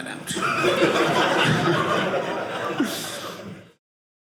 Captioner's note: audience laughing